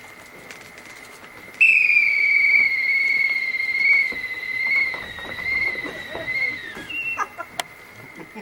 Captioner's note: whistle blows